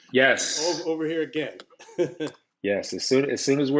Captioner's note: laughs